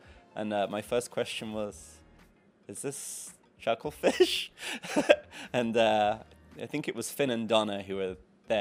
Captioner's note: laughs